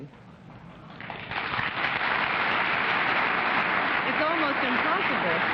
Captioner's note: applause